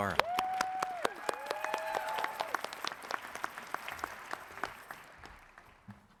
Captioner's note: audience cheers and applauds